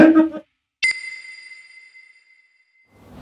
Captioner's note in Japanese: ピックアップ 効果音